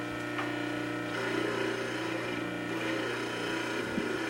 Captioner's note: machinery grinding